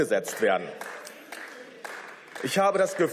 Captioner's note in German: Beifall